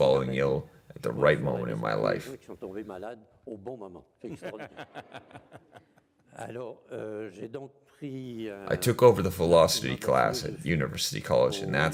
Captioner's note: laughs